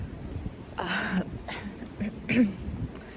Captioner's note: clears throat